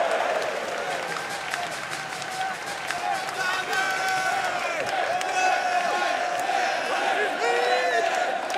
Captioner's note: crowd cheering